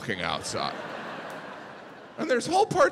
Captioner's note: audience laughing